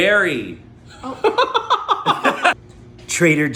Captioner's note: laughing